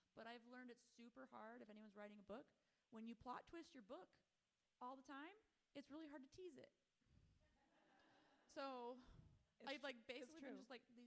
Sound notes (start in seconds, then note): 7.6 audience laughing